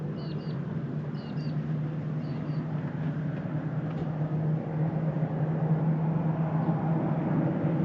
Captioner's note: birds chirping